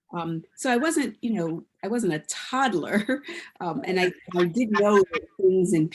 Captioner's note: chuckles